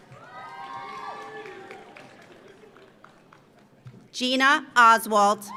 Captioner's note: audience cheers; audience applauds